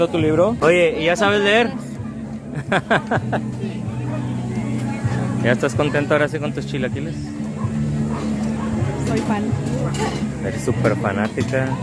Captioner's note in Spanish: risas